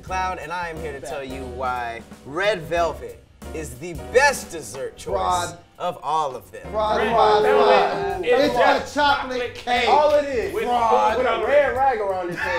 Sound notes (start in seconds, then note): 7.0 group booing